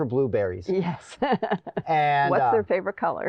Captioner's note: laughing